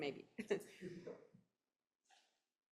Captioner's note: laughing; chuckling